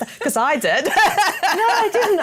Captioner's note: laughter